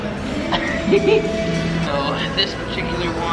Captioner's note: laughs